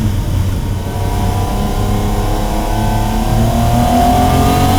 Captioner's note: car revving continues